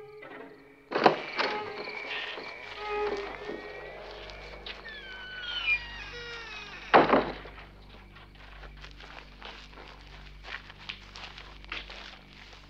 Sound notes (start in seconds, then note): 0.8 door creaking